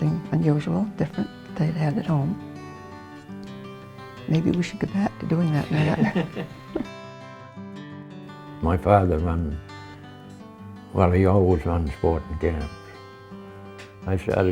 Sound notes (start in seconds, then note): 5.8 chuckles